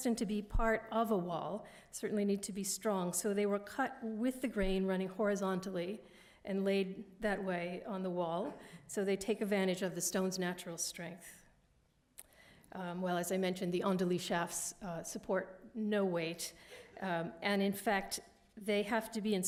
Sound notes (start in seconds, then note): 14.0 french